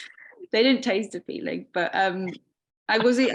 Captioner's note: chuckling